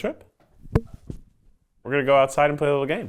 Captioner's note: mic thudding